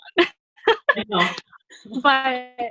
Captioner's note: laughing